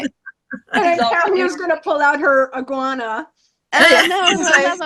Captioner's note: all laugh